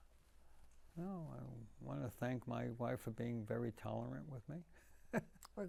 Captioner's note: laughing